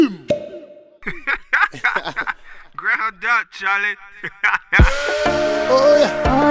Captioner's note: laughter